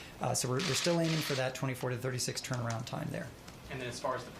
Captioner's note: none